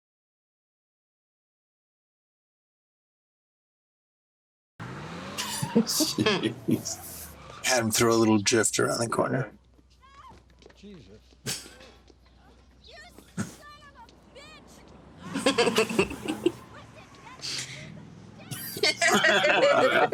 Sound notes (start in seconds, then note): 5.4 all chuckle; 11.4 chuckles; 18.4 all laughing